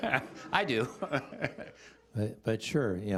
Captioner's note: chuckling